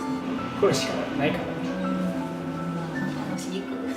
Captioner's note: laughs